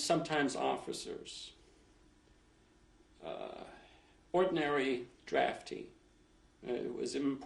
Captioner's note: pauses for 3 seconds